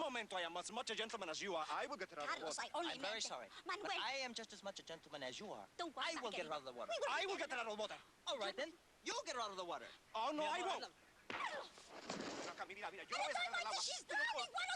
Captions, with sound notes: I WILL GET HER OUT OF THE WATER. CARLOS, I ONLY MEANT... I'M VERY SORRY. BUT I AM JUST AS MUCH A GENTLEMAN AS YOU ARE. I WILL GET HER OUT OF THE WATER. I WILL GET HER OUT OF THE WATER. ALL RIGHT THEN, YOU'LL GET HER OUT OF THE WATER. OH NO, I WON'T! ( speaking Spanish rapidly ) AT A TIME LIKE THIS SHE'S DROWNING!